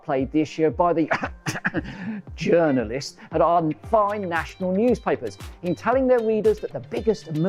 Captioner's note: cough cough